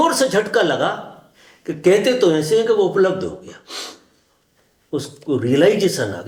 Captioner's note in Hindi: नाक से की जाने वाली आवाज़